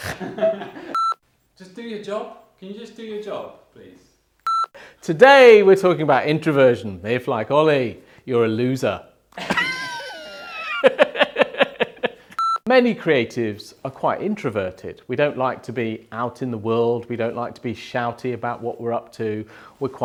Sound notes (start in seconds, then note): 0.0 snorts; 0.0 laughs; 0.9 video beeps; 4.4 video beeps; 9.3 video beeps; 9.4 laughs